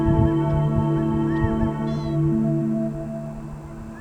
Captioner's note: birds cooing